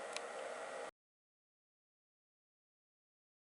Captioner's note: whirring stops